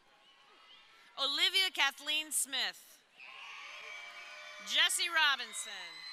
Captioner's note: crowd cheering